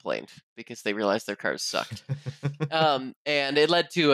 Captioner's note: chuckles